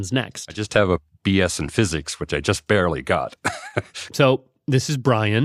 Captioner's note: laughs